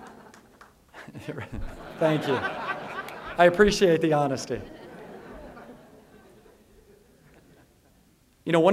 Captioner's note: laughter; laughter